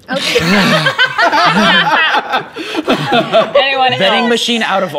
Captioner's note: laughter